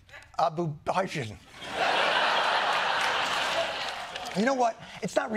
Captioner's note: laughter